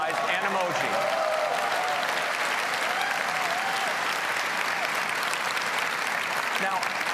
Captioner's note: applause